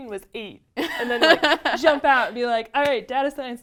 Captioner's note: laugh